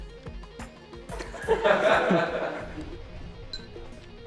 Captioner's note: laughter